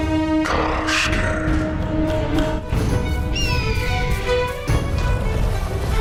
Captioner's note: speaking in foreign language